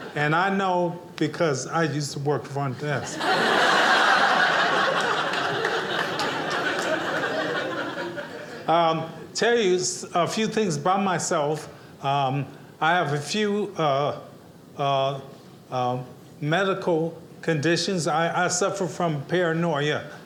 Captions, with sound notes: and I know because I used to work front desk. (audience laughing) Tell you a few things about myself. I have a few medical conditions. I suffer from paranoia